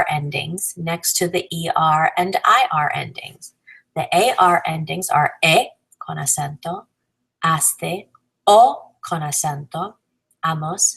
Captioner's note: con acento